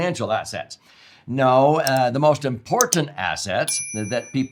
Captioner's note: mouse clicks; bell dings